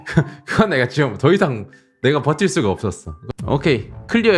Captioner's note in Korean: 하하!